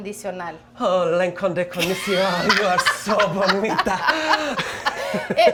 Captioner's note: Marcela speaking in foreign language; speaking in foreign language